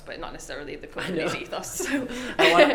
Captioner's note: laughs